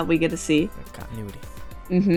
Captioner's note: whispers